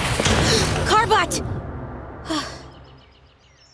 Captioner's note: sighs